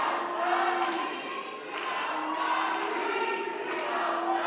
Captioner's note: background chanting, “Free, Free Palestine!”